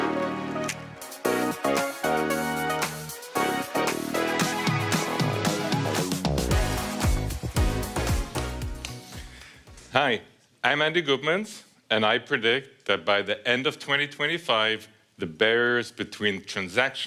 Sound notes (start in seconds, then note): 3.0 applause